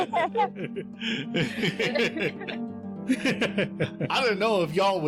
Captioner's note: laughter